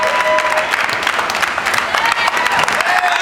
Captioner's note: applause